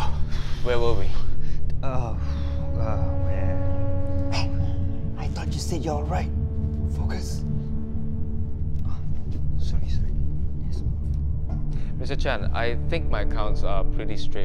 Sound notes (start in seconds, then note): 4.2 whispering; 8.2 whispering